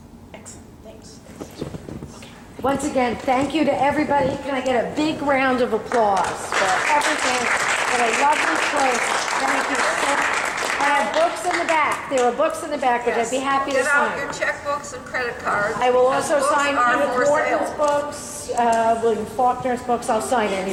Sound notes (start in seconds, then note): 5.9 clapping